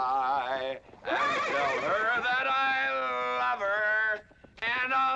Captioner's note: horse neighing